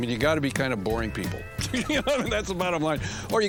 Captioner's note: chuckles